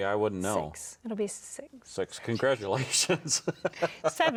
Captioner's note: chuckles